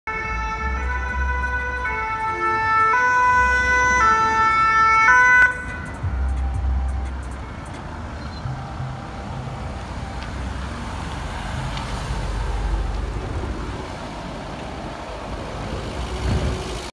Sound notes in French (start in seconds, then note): 0.1 pimpom pimpom; 8.0 vroum s'intensifie pendant que la musique en fond continue; 10.0 petit vrouuuum de VSAV pas très bruyant; 13.9 vrouum disparait progressivement